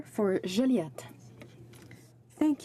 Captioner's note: speaking French